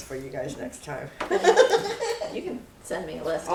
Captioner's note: laughs